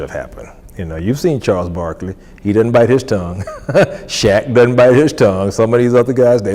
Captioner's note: laughs